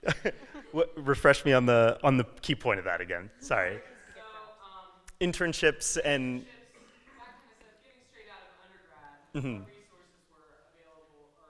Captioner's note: audience talking